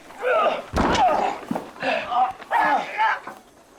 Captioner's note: groaning